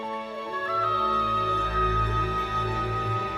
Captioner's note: howling